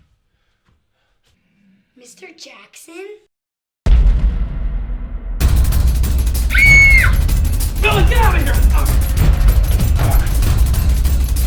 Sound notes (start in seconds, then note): 4.2 startling tone; 5.7 tense music; 6.5 screaming